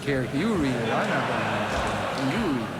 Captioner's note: audience laughs